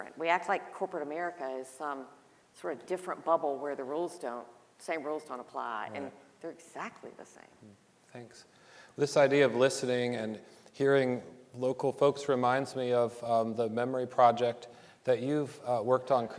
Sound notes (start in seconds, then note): none